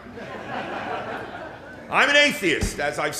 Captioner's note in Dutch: Gelach